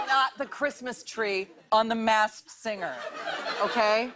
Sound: laughter

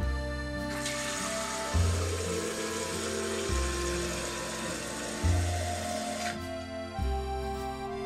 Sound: the sound of pouring water

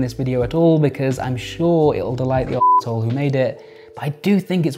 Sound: beeps

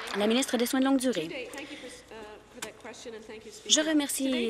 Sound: applause

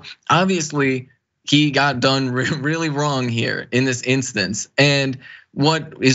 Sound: laugh

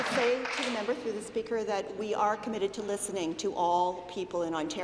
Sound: applause

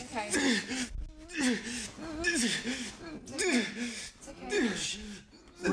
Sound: Wes gasping in pain

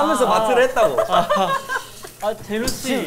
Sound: cracking up

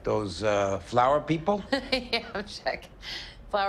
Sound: laughs

